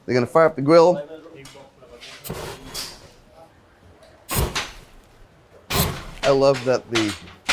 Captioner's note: speaks in foreign language